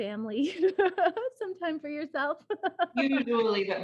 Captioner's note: laughs